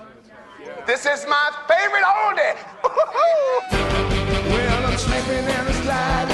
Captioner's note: Смее се